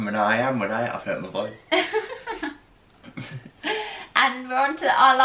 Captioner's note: laughter